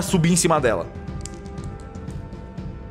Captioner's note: dice sounds